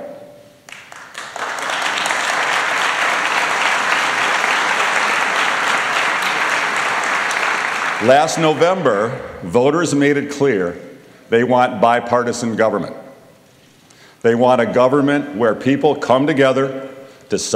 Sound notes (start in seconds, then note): 5.5 applause